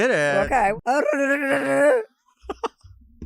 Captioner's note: Chelsea blats; Delta Work laughs